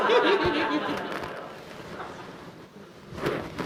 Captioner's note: everyone laughs